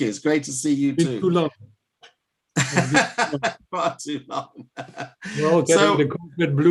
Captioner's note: laughter; laughter